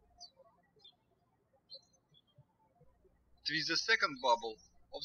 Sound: birds chirping

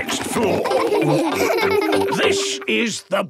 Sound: laughing

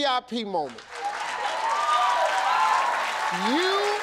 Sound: cheers and applause

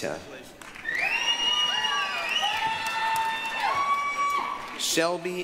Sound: applause, cheering

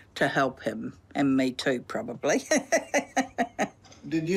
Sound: laughs

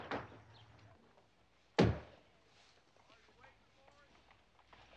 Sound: door closing; stamp pounding

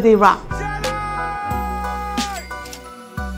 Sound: yells; cash register chimes

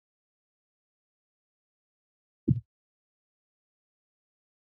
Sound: silence

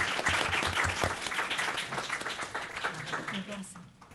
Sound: applause

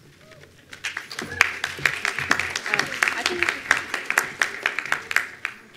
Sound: attendees applauding

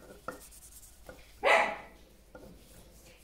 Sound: small dog barking again

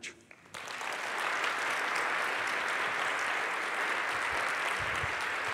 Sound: applause

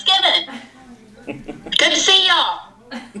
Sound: laughing

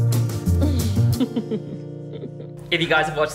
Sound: giggles

